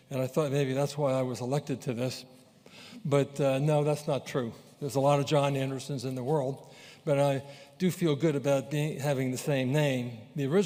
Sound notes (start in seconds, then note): none